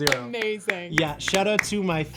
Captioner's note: clapping